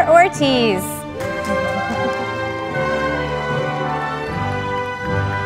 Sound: audience applauding

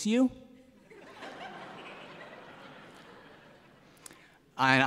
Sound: laughter

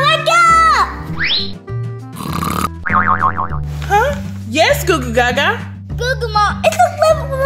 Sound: Goo Goo Mom snoring

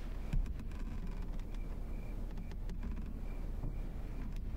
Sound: floorboards creaking

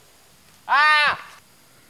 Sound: scream

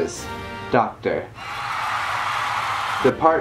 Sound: applause

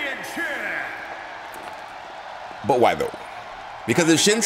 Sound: applause

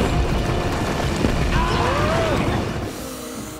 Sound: screaming

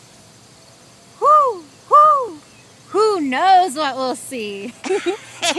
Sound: hoots; laughing

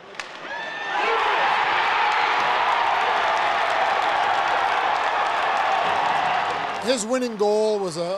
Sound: cheering

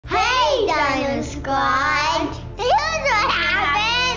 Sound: several kids speaking in unison

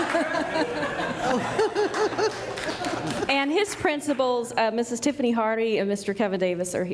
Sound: applause; laughter

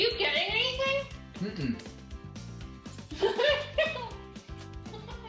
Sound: laughing and sucking

